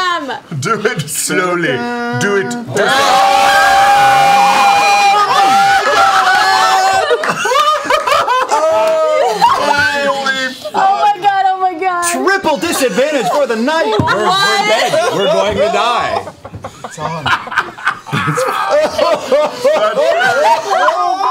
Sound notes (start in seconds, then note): 2.4 yelling; 17.9 laughter